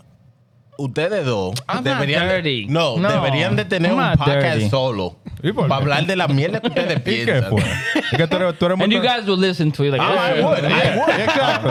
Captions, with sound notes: (Speaking In Foreign Language) I'm not dirty. No. (Speaking In Foreign Language) You can't pull him. (Laughing) And you guys will listen to you like this. Oh I would, I would.